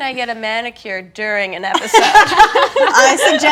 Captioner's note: laughing